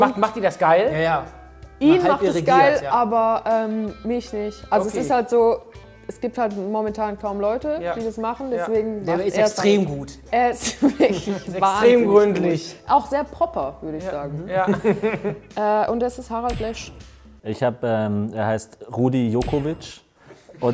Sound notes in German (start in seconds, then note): 14.5 Lachen